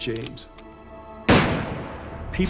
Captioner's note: gunshot